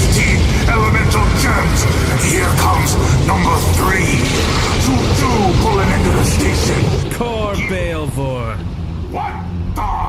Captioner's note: confident